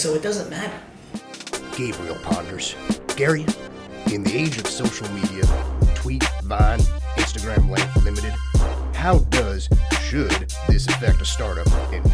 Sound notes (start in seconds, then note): 2.0 voiceover